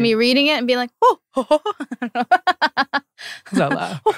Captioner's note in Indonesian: ngakak